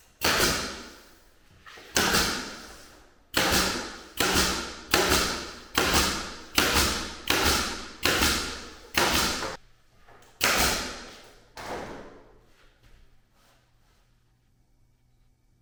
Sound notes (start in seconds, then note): 0.7 gun nailing